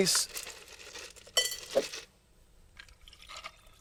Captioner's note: ice rattling